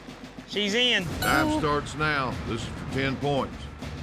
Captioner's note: horn blows